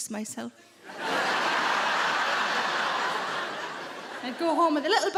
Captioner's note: crowd laughs